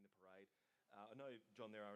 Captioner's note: silence